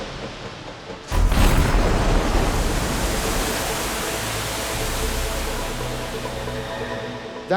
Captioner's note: water splashing; bomb booms